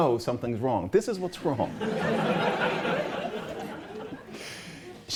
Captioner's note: laughter